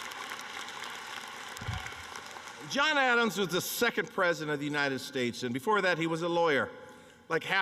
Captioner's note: applause